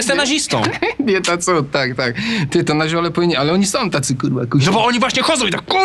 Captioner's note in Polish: śmiech